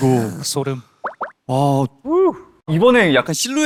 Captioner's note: aww~